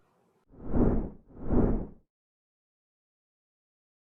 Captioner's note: logo whooshes